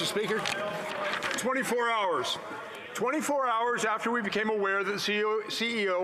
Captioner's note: some Applause